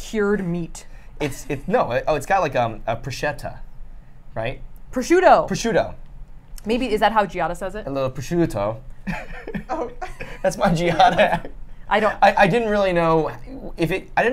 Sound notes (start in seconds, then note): 9.0 laughs